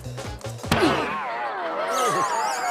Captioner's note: groans